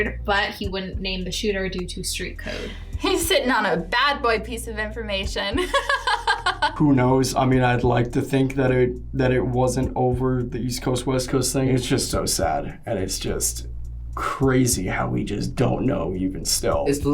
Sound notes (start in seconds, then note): 5.5 laughs